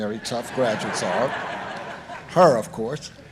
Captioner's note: audience laughing